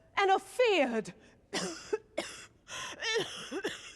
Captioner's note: coughing